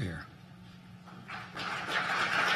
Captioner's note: applause